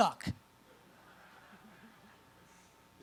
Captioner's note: audience laughs